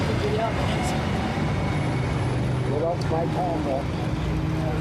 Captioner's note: onlookers chattering